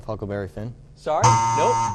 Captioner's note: buzzer